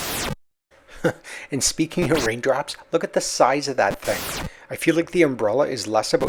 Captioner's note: chuckles